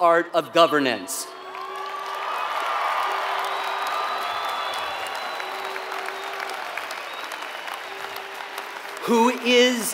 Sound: applause

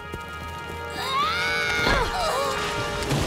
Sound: screaming

